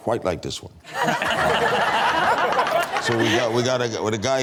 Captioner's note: crowd laughs